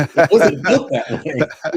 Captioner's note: laughing